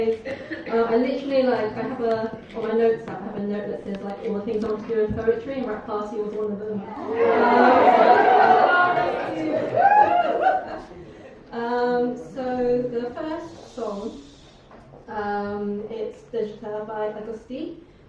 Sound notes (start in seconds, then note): 9.9 cheers